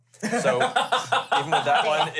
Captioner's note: laughs